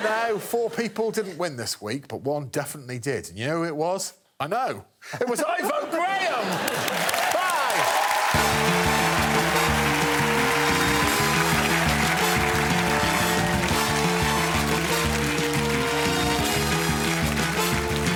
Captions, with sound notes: by Frankie Boyle's whistle. That's all for now. Four people didn't win this week but one definitely did. And you know who it was? I know. It was Ivo Graham. Bye. -[cheering and applause] -[theme music playing]